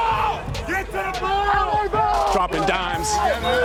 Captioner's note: players shout